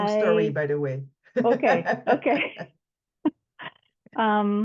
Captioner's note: laughs